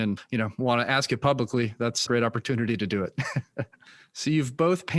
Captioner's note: laughs